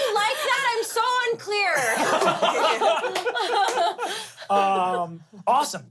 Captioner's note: everyone laughs